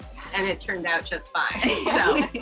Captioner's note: aquanauts giggle